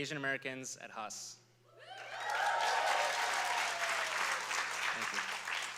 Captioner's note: applause